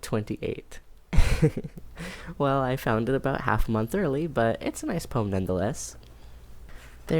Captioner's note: laughs